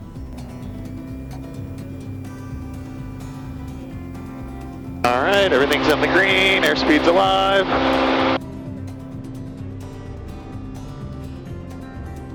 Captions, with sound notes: (plane engine revving) All right, everything's on the green. Air speed's alive. (gentle acoustic music)